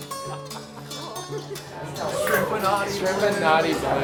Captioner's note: man 1 laughing